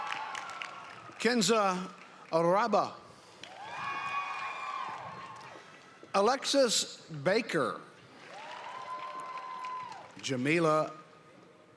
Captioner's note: cheering and applause